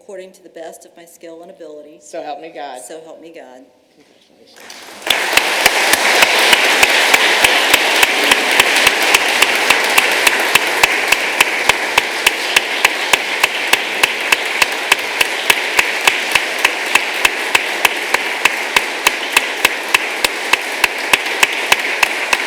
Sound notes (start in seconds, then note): 5.0 applause